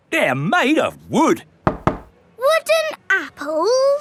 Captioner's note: knocks